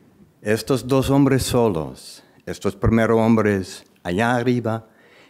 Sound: speaking in foreign language

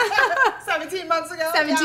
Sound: laughing

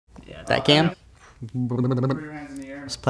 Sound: sputtering

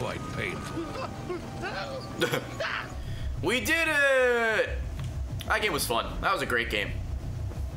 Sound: laughs

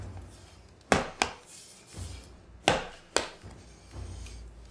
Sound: dough thudding

